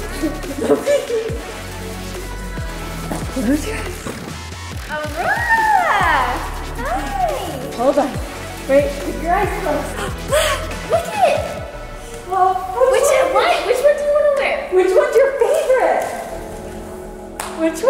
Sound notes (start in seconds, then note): 0.0 giggling; 1.2 upbeat music; 11.3 both conversing quietly